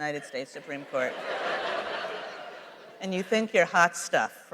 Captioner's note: laughter